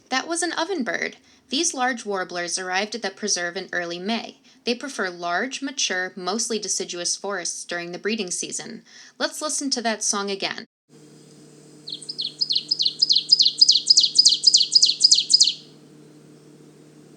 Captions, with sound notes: That was an Ovenbird! These large warblers arrived at the preserve in early May. They prefer large, mature, mostly deciduous forests during the breeding season. Let's listen to that song again. [Ovenbird singing]